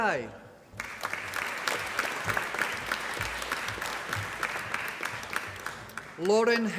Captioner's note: applause